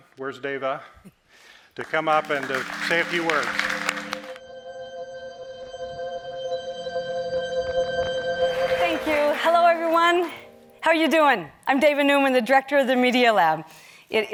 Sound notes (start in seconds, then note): 1.7 audience claps